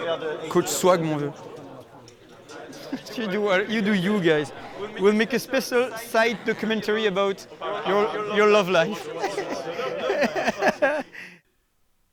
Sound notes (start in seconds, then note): 9.2 chuckle